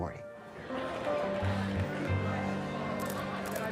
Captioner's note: indistinct chatter; camera shutter clicking